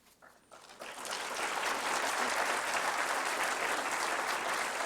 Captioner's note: applause